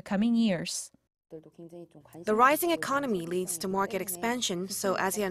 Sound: Korean

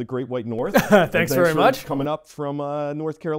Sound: laughs

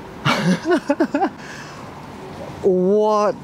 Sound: laughs in shock

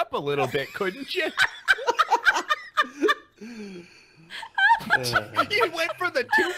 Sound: laughing

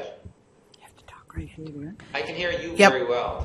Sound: voiceover; whispers

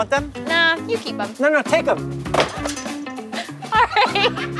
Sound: pizza box clatters; chuckles; woman laughs

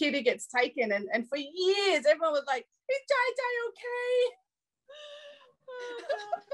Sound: laughs

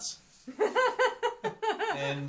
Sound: laughs

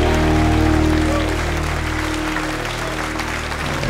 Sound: cheers and applause

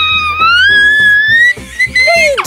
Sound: yelling

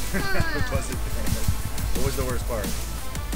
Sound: laughs

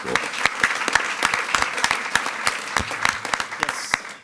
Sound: attendees clapping

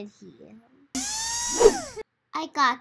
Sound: drill buzzes; loud whoosh

